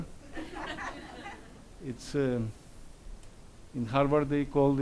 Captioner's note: audience laughs